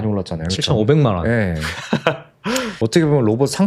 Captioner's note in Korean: 웃음